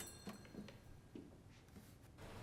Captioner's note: footstep